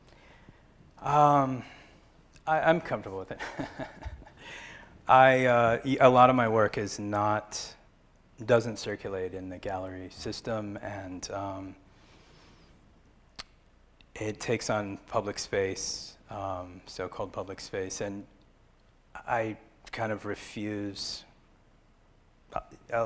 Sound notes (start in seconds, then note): 3.4 laugh